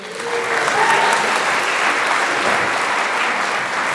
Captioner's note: applause